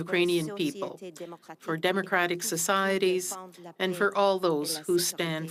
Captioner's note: speaking French